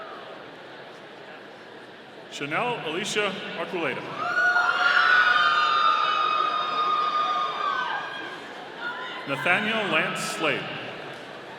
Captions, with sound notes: Chanel Alicia Archuleta. (audience cheering) Nathaniel Lantz Slade.